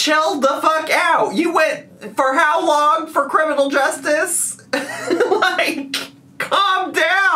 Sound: laughing

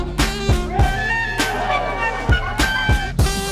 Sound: cheering

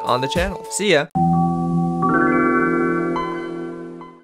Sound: Windows 95 startup sound

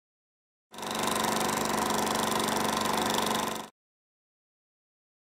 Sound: film reel sound

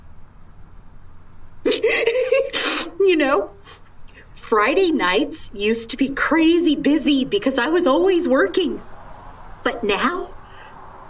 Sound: giggles

